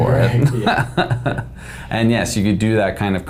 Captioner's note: laughing